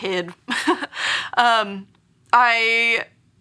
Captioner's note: laughs